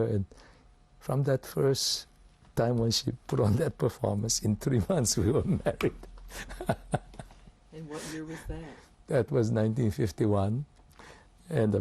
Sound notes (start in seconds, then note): 6.3 laughs